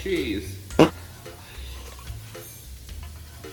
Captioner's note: farting